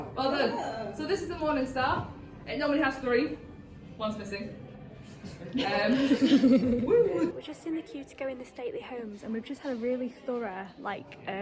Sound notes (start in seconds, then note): 5.2 laughter from crowd